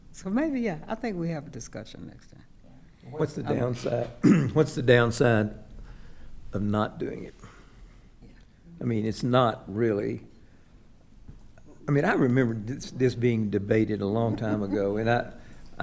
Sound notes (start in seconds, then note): 4.2 clears throat